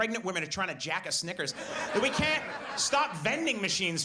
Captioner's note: audience laughs